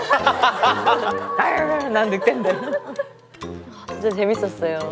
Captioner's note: laughs